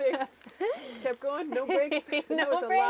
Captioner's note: laughing